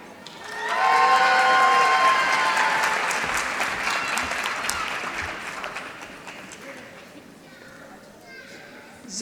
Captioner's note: applause